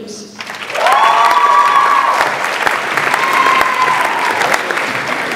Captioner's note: audience applauds and cheers